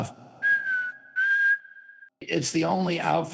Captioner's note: trump whistles inconspicuously